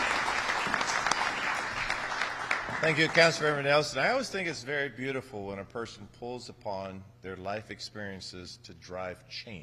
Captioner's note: applause